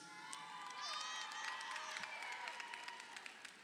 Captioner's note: crowd cheering